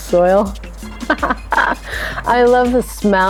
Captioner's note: chuckles